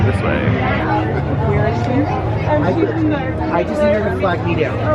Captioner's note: people chattering